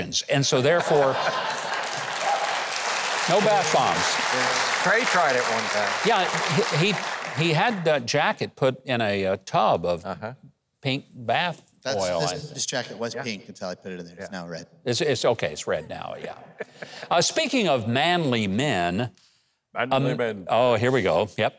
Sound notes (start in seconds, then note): 4.0 audience applauding